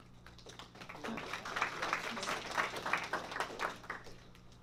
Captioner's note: applause